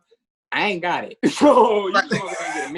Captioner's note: laughs